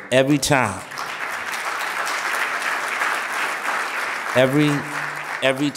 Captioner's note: audience applauding